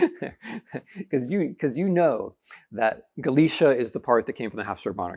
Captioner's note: laughing